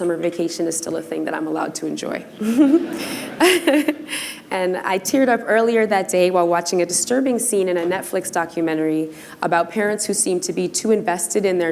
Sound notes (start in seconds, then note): 2.4 laughter